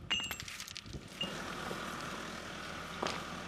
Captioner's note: excavator humming